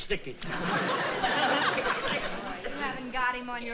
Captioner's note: audience laughing